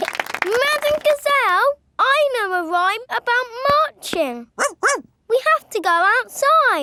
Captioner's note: laughing and clapping; barks